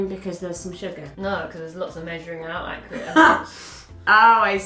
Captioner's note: laughs